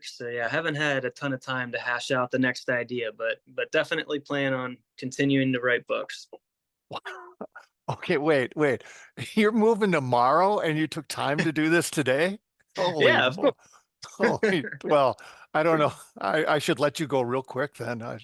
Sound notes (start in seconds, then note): 6.9 chuckle